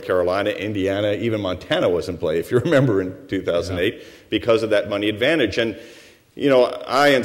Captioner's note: chuckles